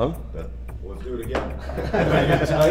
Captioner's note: laughs